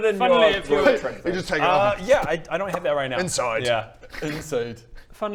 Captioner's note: twrrp-pop!